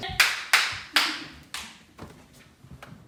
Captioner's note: clapping